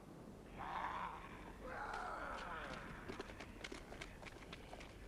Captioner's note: raiders snarling